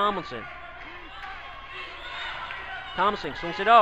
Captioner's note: crowd talking and yelling